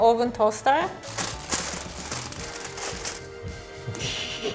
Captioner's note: tinfoil crinkling